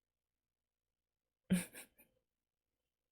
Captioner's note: chuckles